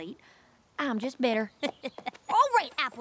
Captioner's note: chuckles